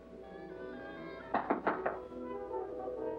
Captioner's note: knocking on door